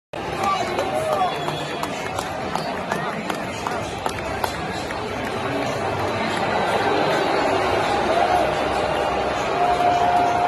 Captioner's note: boos